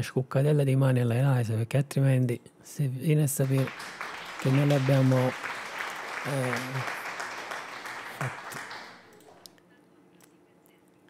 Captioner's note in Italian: Applauso